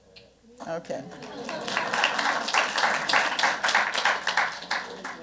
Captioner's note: applause